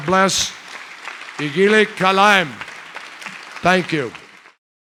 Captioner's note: speaking kyrgyz